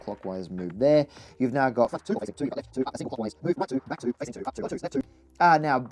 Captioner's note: sped up audio